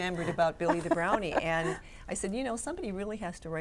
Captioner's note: laughs